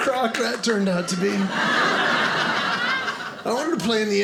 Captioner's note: audience laughing